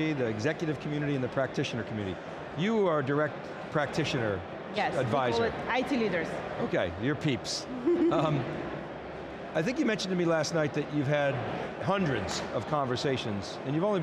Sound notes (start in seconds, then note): 7.8 laughs